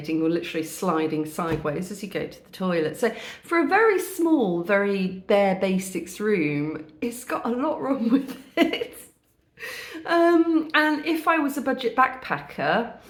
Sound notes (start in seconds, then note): 8.2 laughing